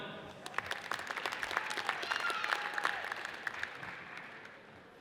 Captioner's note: audience applauds